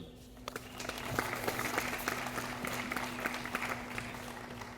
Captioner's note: audience applauding